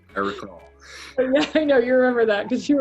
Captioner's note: laughs